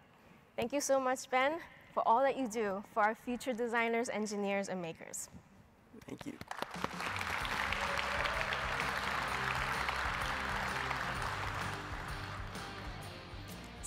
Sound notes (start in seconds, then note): 6.3 audience applauding; 6.9 upbeat music